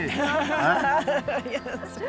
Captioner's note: laughter